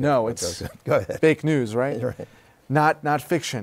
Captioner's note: laughter